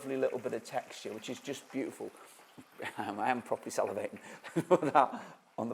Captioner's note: chuckles